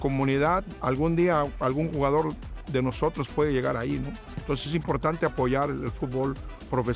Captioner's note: continues speaking in foreign language